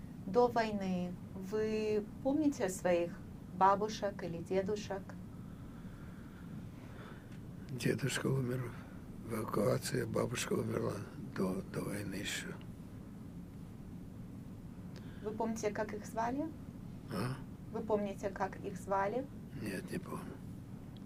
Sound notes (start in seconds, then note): 7.8 sighing